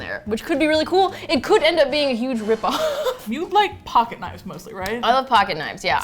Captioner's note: laughs